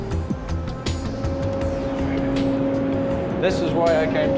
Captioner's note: low, pensive music; engine humming